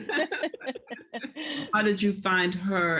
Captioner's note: laughter